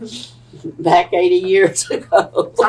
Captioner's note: laughter